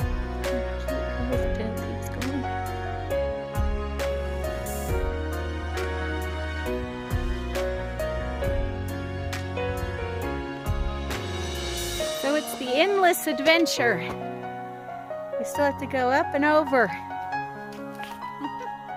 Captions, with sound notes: cute how his little tail keeps going So it's the endless adventure! We still have to go up and over! [giggle]